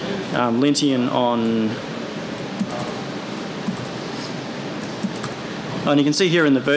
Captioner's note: typing